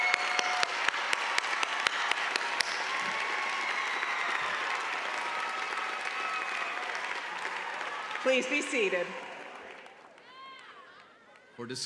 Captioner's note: cheers and applause